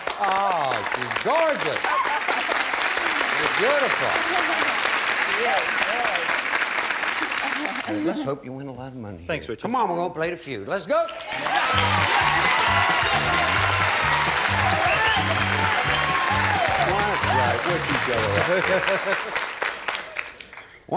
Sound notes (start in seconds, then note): 7.2 applause; 11.0 applause